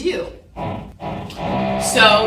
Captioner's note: tool motor whirring